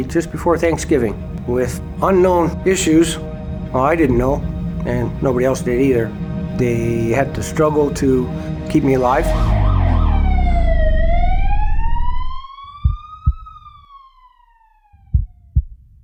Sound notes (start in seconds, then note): 8.9 siren blares; 12.7 heart thudding